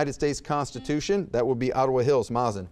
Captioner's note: buzzer beeps